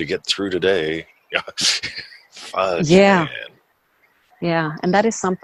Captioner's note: laughs